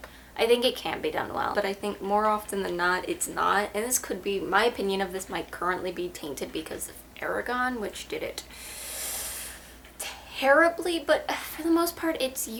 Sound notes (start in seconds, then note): 8.5 sharp inhale